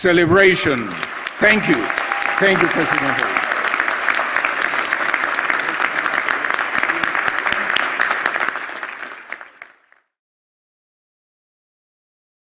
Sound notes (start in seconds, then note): 0.4 applause; 6.3 applause